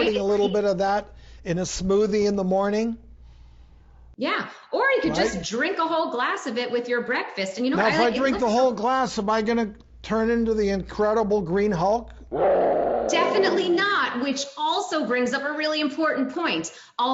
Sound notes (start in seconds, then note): 12.3 Hulk growling